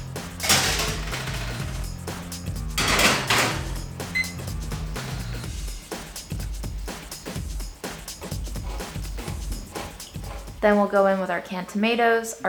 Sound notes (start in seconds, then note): 4.1 timer beeps